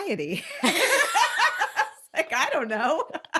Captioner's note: laughing; laughing